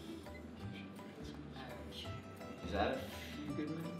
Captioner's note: whispers